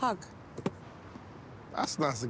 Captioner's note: box thudding